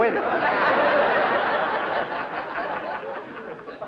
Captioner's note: laughter